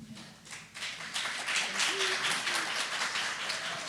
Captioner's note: applause